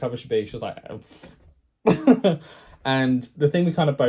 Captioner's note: laughs